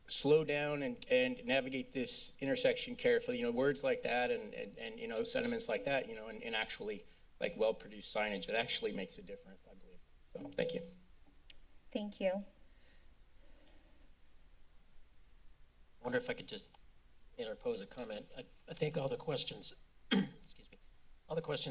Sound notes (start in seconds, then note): 11.1 mic thump; 12.9 silence; 20.1 clears throat